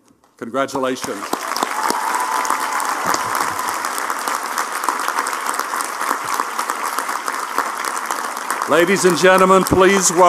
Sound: applause

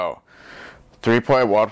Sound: inhales

